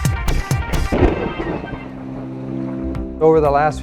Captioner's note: upbeat music; thunder snaps